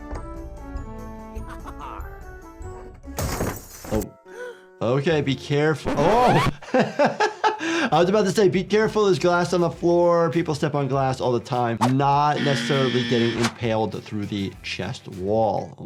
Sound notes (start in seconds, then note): 1.0 upbeat music; 3.2 glass breaking; 5.8 record screeching; 6.0 doctor laughing